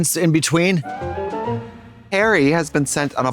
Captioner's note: whimsical chime